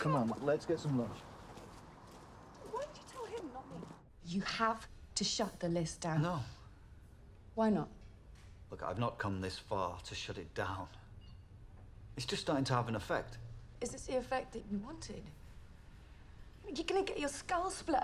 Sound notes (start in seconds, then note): none